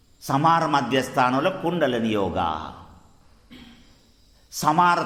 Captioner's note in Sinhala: උගුර කෑරීම